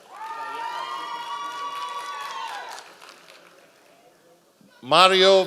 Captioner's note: members of the audience cheering